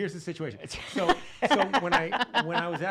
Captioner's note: laughing